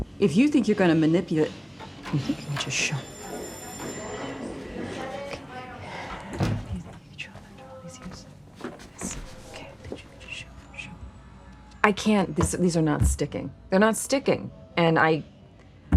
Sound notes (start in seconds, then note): 4.0 distant crew chatter; 6.8 whispering lines